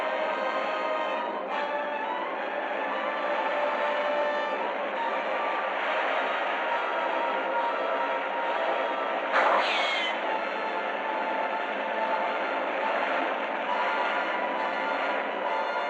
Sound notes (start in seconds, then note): 9.4 gunshot